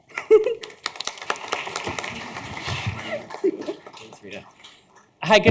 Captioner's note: audience clapping